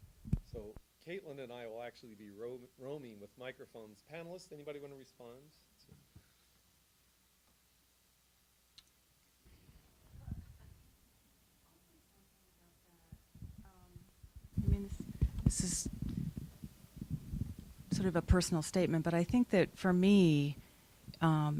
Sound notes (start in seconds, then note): 5.8 silence